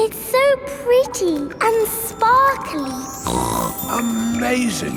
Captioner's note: snorts